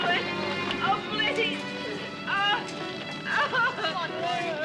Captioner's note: gloria sobbing